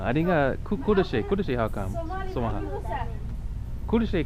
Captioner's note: somali